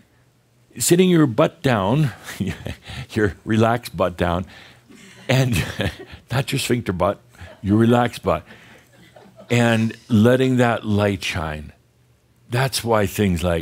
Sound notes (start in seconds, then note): 2.2 Adamus chuckles; 8.9 a few giggles